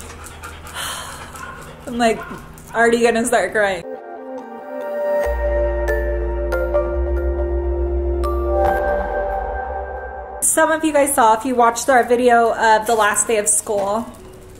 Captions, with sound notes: (she sighs) I'm already gonna start crying. (ethereal music) Some of you guys saw, if you watched our video of the last day of school.